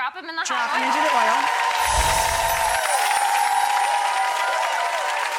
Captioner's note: crowd cheering